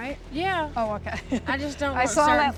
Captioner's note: laughs